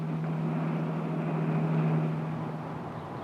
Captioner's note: whirring